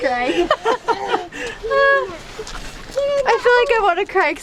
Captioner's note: laughing